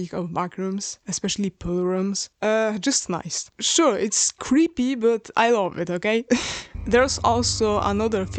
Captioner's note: chuckle